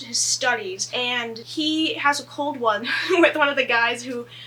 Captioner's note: laughs